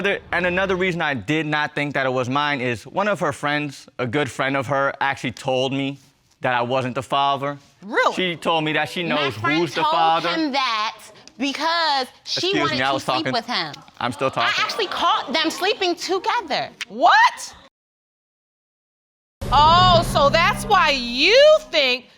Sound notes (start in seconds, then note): 14.1 audience exclaiming